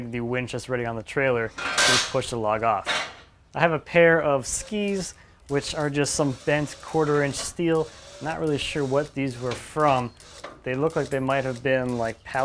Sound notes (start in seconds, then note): 1.6 clanking metal; 4.8 engine whirring